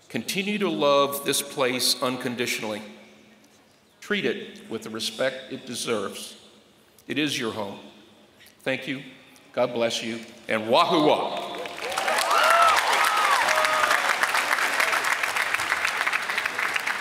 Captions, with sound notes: Continue to love this place unconditionally. Treat it with the respect it deserves. It is your home. Thank you. God bless you. And wah-hoo-wah. [APPLAUSE]